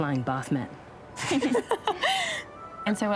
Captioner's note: laughter